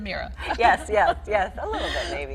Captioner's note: laughing